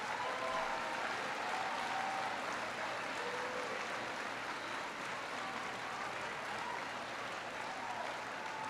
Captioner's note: laughter and applause